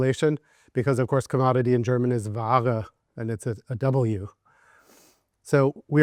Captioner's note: speaks German